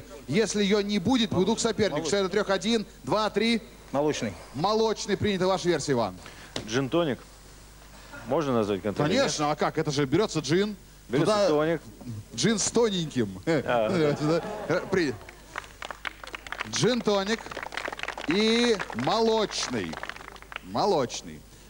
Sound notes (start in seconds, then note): 13.6 laugh